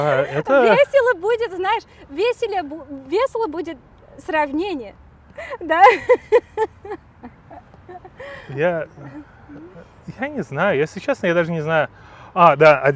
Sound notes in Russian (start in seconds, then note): 5.4 смеётся